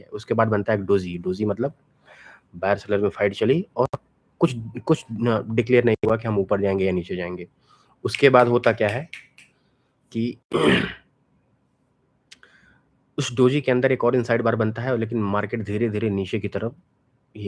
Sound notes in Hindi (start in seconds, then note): 10.5 गला साफ़ करने की आवाज़; 10.5 खांसने की आवाज़